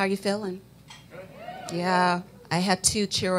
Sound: cheering

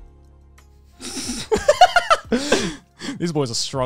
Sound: laughing

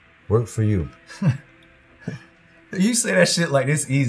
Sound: laughing

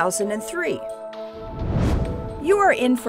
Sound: whoosh

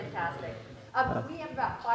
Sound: audience murmuring

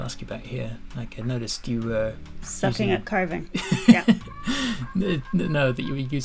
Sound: laughter

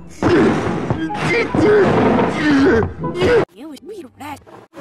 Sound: grunts

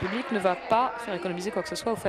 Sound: applause

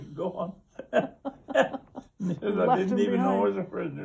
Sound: laughs

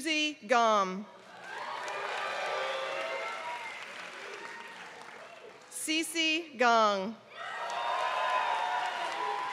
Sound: applause; applause

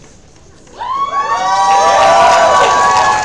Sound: crowd cheers

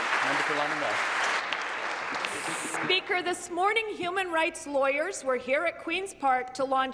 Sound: applause

